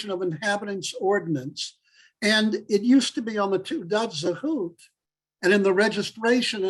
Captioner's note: Hebrew